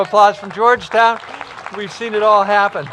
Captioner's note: applause